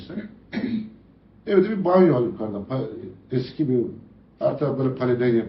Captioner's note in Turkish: boğazını temizler